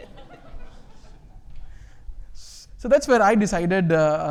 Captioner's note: audience laughing